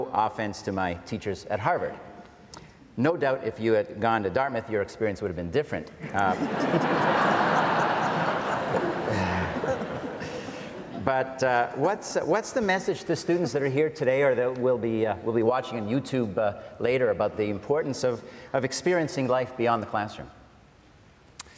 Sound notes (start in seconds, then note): 6.1 audience laughs